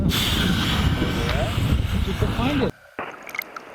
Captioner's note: air whooshing